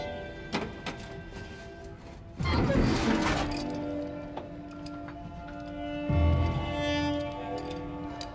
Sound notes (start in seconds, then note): 0.0 pensive music; 0.6 metal clanging